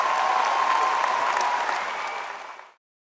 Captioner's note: applause